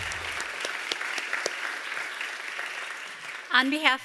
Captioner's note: applause